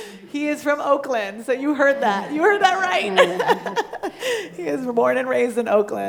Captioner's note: laughing